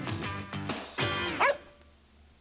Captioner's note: woof!